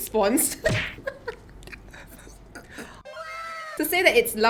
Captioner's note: dies of laughter